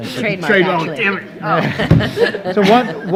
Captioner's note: everyone laughing